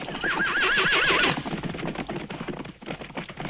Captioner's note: horse whinnies